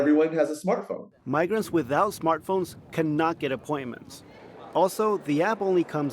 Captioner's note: voice-over